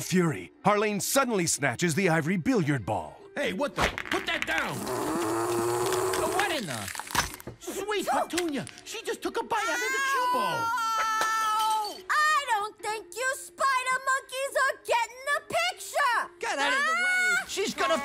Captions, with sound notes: Harleen suddenly snatches the ivory billiard ball. - Hey, what the-- - Put that down. - [growling] - What in the-- [crack] Sweet petunia, she just took a bite out of the cue ball. - Ow! I don't think you spider monkeys are getting the picture. - Get out of the way. She's gonna flip the--